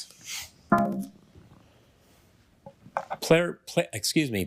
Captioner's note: failure chime